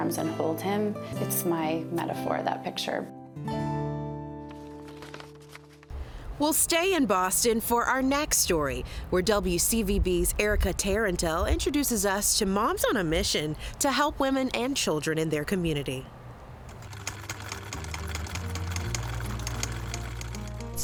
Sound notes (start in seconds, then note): 4.4 notes shuffling; 16.8 sewing machine chucking